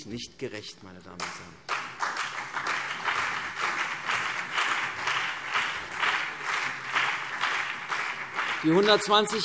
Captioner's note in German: Beifall CDU und BÜNDNIS 90/DIE GRÜNEN